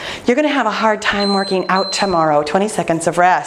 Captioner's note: timer beeping